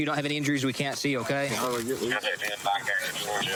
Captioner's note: scissors cutting